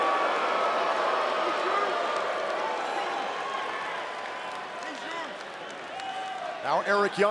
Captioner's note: crowd chatter